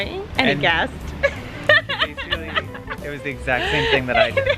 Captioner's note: laughs